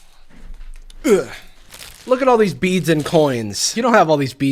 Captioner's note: grunts